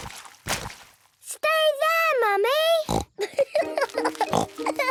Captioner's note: laughing